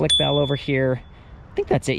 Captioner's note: bike bell dings